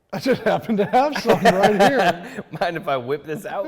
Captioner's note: laughs